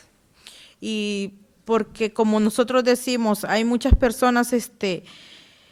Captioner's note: speaking Spanish